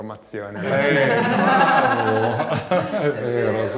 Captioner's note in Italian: risate